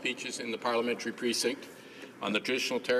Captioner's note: speaking in french